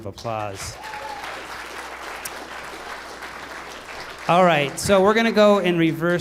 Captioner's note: applause